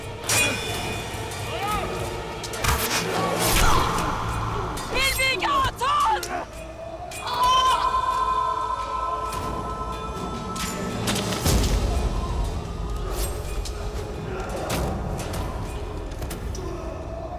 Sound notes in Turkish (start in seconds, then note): 7.1 Bağırıyor; 9.2 Gerilim müziği